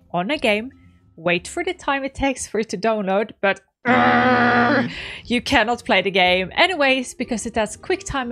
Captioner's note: angry noises